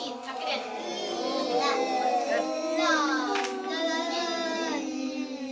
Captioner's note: children imitating L sound